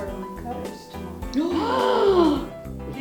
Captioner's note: gasps